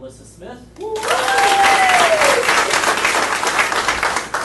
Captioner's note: audience applauding